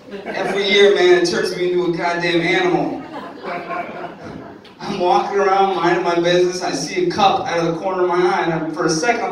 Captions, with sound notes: Every year, man. It turns me into a god-damn animal. (audience laughing) I'm walking around, minding my business and I see a cup out of the corner of my eye. And for a second, I'm like,